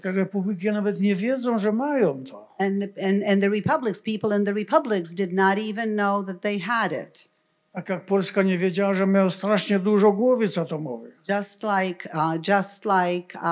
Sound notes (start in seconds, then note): 0.3 foreign language; 8.1 foreign language